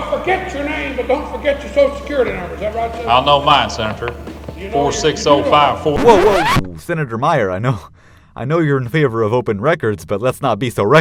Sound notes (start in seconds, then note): 5.6 record scratch